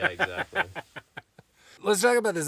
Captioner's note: laughing